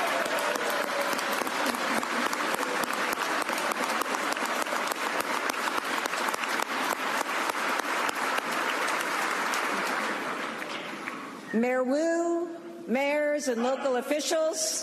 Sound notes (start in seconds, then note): 5.9 applause